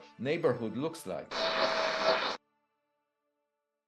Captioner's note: static